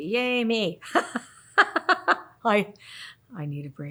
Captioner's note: laughs